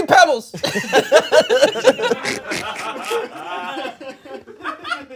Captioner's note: everyone laughs